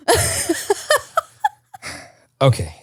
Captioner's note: laughs